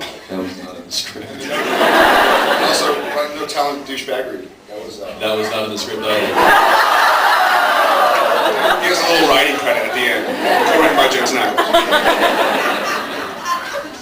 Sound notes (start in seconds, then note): 1.4 laughing; 1.4 laughs; 4.1 laughs; 6.3 laughs; 11.6 laughs